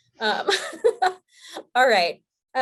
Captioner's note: laughing